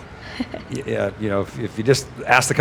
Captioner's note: laughing